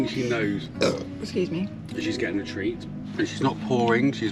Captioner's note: burps